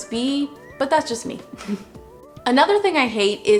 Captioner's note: laughs